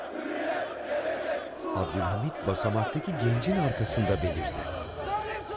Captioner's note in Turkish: Hep bir ağızdan